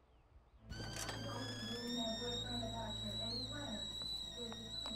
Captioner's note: kettle whistles